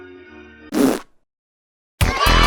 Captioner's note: raspberry-fart